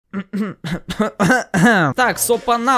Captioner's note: cough